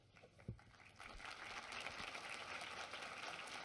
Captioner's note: applause